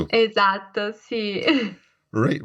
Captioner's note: laughs